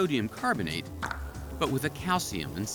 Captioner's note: billiards break clattering sound